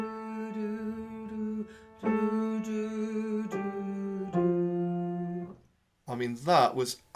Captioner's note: playing and humming